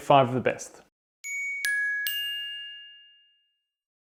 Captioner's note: bell pinging